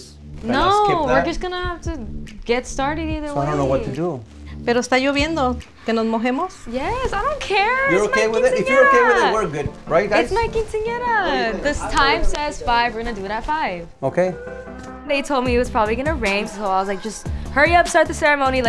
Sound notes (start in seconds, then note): 4.5 speaks in foreign language